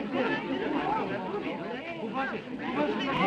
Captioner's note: crowd chattering